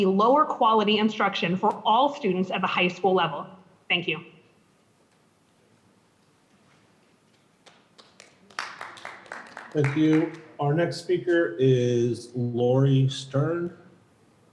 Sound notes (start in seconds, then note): 7.3 audience clapping